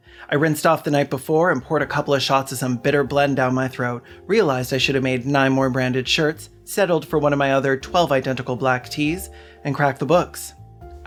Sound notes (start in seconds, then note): none